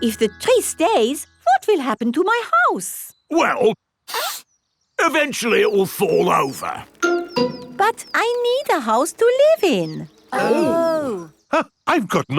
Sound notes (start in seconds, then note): 4.1 sniffs; 10.2 gasps